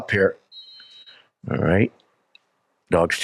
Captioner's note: whistle blows